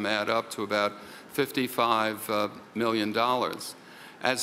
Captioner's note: none